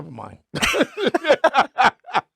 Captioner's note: laughing